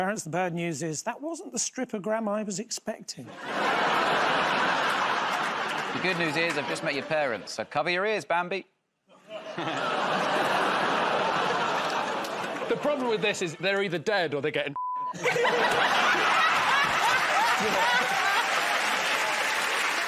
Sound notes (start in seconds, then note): 3.3 laughter; 9.0 audience groans; 15.1 laughter; 18.0 cheers and applause